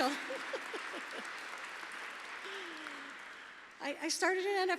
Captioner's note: laughter